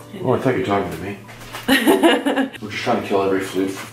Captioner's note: laughing